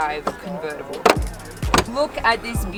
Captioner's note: click-clock